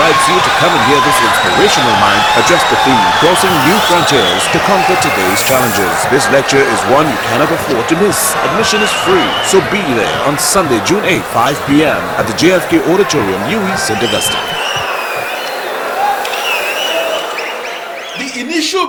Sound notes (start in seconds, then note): 12.7 wild applause and cheering for 22 seconds